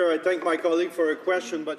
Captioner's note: speaking French